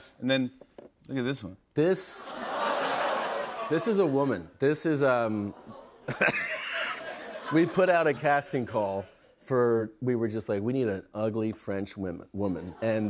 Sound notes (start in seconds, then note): 2.2 laughter; 5.3 laughs